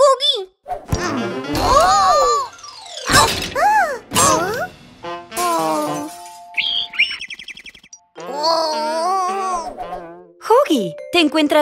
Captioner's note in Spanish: Sonido de pájaro